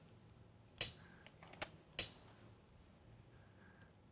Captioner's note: electronic sound of selecting a letter